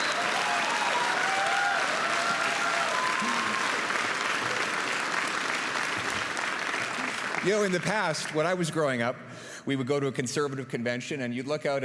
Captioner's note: cheers and applause